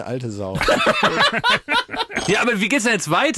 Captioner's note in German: Lachen